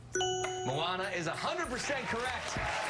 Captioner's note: applause